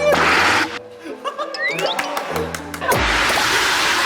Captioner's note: applause